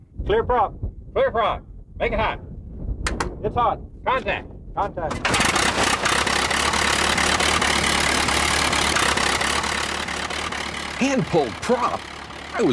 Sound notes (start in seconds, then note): 5.7 propellor spinning